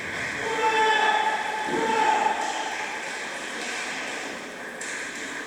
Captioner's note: applause